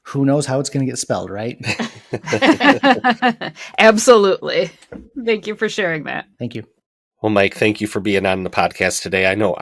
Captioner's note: laughter